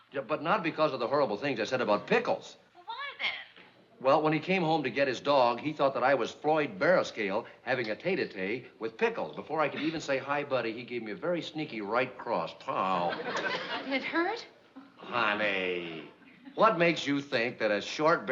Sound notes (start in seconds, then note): 2.8 on phone